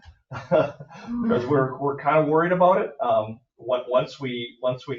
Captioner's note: laughs